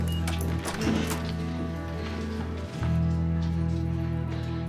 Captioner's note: door opening